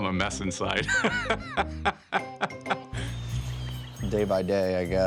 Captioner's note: laughing